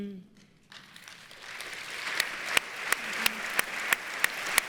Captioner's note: audience applauds